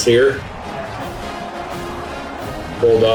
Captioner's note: crowd Noises